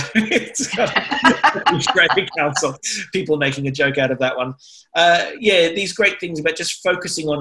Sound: laughter

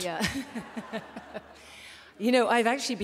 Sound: laughter

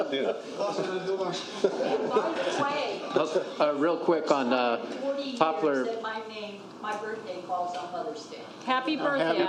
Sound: laughter

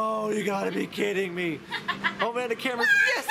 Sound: laughing

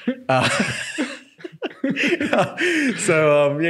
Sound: laughing

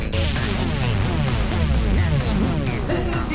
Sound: lasers zapping

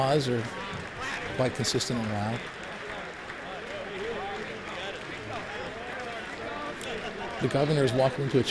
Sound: applause

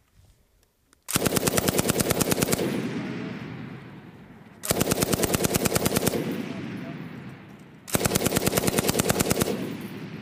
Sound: gunfire

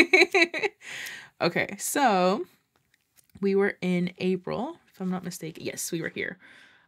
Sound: laughs

